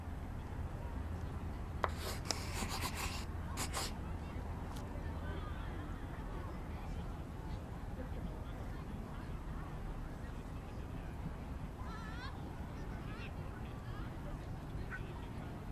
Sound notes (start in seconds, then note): 1.8 pencil scribbling